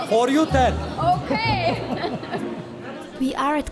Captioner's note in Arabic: ضحك